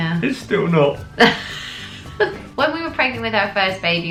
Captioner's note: laughs